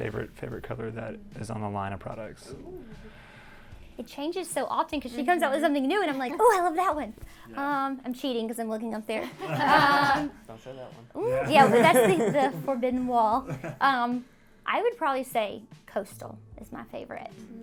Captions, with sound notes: Favorite color that is on the line of products. - It changes so often cause she comes up with something new and I'm like, "ooh, I love that one!" I'm cheating 'cause I'm looking up there. - Don't say that one. (all laugh) - Mmm, yeah, that's the forbidden wall. I would probably say Coastal is my favorite.